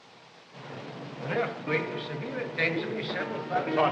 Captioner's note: diners chattering